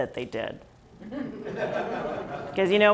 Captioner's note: laughs